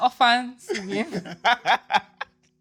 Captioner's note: laughs